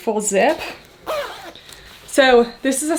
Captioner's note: zipper grinds